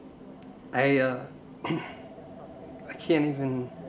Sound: clearing throat

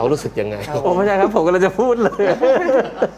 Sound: laughing

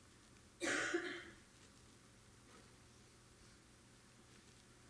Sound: audience member coughing

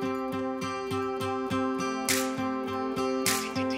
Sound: rhythmic snapping

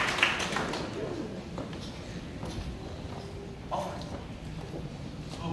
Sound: light conversation

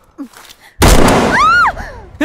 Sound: gun shot

